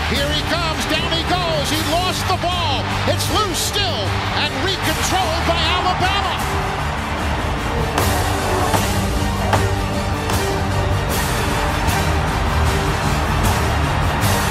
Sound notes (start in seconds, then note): 8.0 low thudding; 11.3 audience cheering